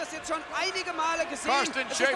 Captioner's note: speaking German